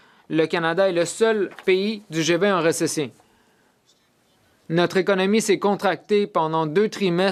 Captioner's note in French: voix de l'interprète